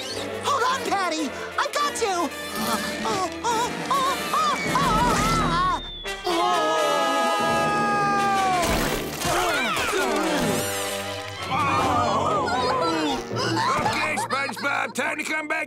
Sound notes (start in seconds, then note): 6.1 screaming; 11.3 groaning